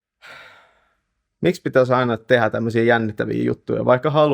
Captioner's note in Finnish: huokaus